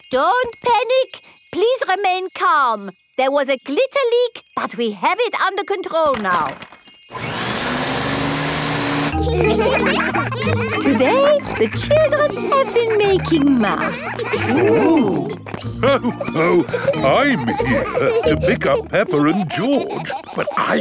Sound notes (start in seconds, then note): 7.1 whirring; 9.5 all laughing; 15.9 laughs